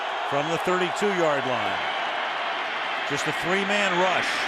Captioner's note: pa announcement